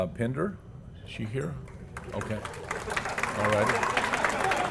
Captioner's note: applause